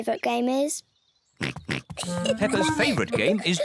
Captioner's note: oinking